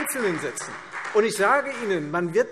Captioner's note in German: Beifall Freie Demokraten